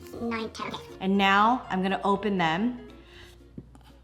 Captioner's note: voice at normal speed